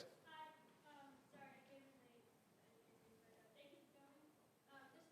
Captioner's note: voiceover